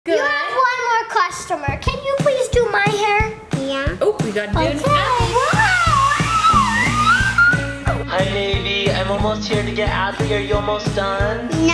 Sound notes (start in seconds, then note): 4.6 hair dryer blows; 7.1 squealing